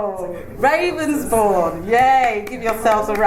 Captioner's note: claps